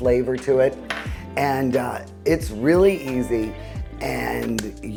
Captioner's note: bowl clanking